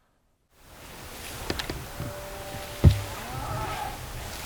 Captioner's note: buck grunting